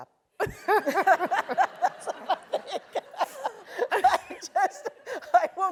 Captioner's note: laugh